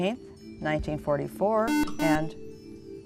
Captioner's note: buzzer